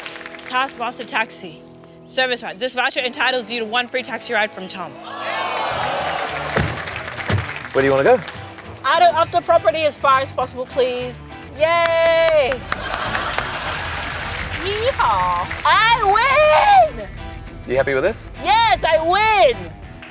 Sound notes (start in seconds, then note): 5.0 exclamations, laughter; 11.6 claps; 11.8 laughter, applause